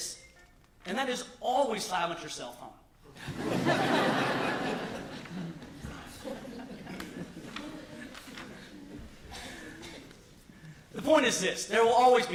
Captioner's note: laughter